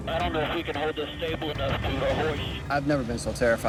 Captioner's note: static